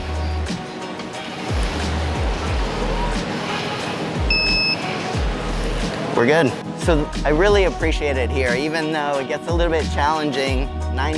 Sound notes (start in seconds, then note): 4.2 beeps